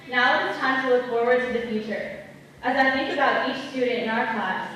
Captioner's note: none